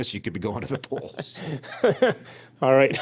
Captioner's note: laughs